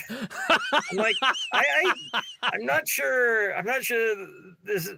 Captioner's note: laughing